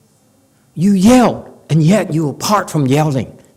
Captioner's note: none